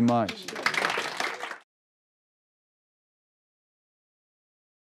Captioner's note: crowd clapping